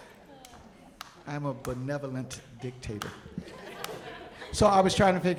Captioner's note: audience laughing; audience chuckling